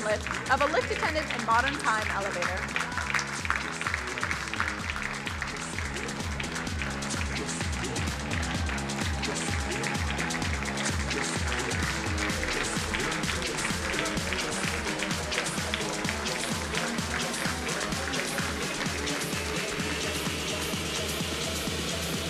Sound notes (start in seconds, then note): 2.8 crowd applauding; 2.8 fast-paced music